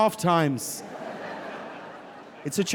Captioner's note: audience laughing